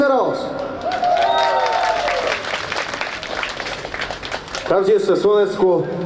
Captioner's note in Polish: oklaski